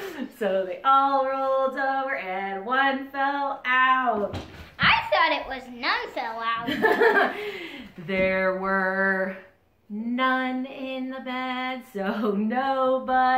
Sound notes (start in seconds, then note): 6.5 laughing